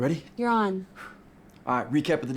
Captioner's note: Miguel lightly exhales